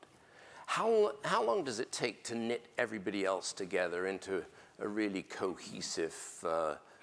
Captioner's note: none